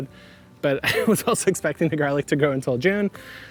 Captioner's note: laughing